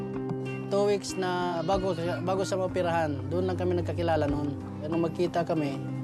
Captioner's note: speaks in foreign language